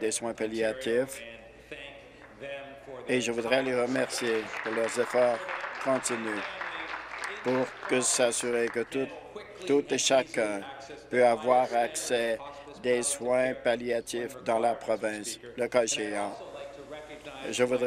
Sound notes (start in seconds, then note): 8.3 applause